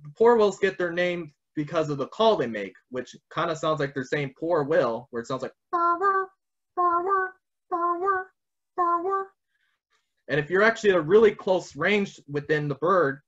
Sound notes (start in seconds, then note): 7.7 vocalizes